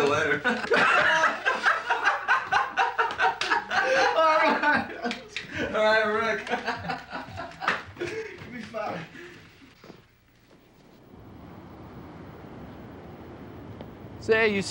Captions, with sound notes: - See you later. (guys laughing) All right, all right.